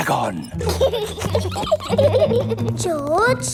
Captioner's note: both giggling